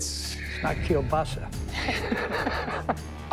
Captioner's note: laughs